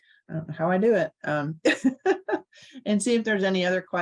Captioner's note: laughs